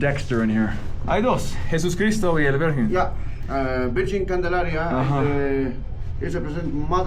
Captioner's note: speakers speaking in foreign language